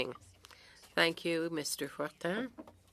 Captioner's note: speaking French